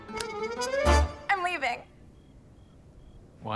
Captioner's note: cricket chirping